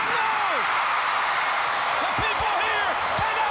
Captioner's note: crowd cheering